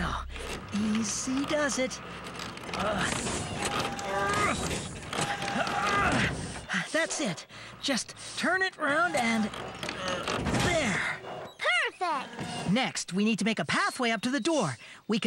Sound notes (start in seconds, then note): 2.9 straining; 8.8 grunting